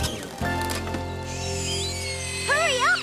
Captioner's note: drill Whirrs